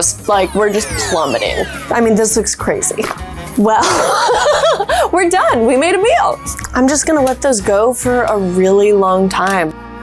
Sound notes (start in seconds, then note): 3.8 laughs